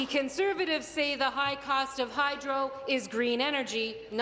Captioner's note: applause